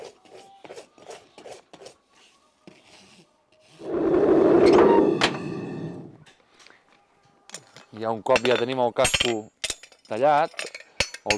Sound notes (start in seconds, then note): 3.8 blast from the furnace